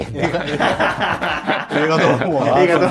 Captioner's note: laughing